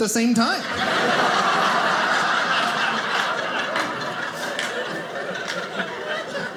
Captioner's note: audience laughing